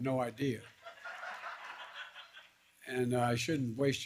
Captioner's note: laughter